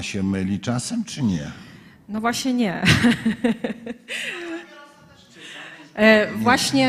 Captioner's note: laughs